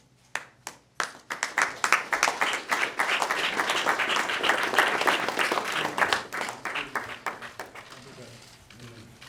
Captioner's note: applause